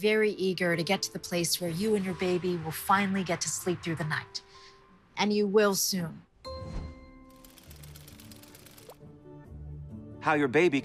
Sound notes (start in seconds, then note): 6.4 bright music; 7.4 gears whirring